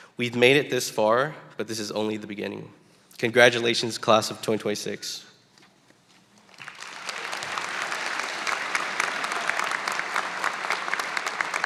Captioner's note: applause